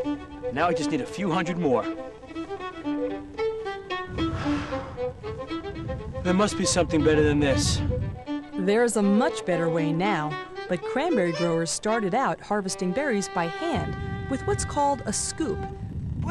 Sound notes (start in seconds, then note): 4.2 sighs